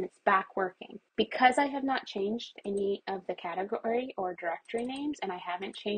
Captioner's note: more mouse clicks